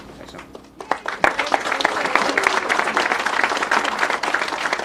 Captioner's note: people applauding